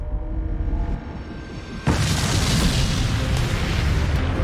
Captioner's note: explosion